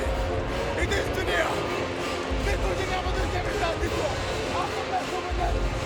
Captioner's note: Rusev speaking in Russian continues